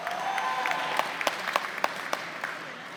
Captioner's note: applause